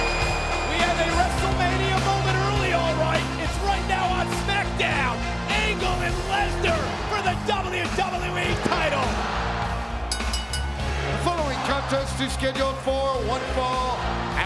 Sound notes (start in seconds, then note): 0.0 audience cheering and clapping; 10.0 bell rings